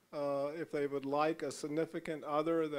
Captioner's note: none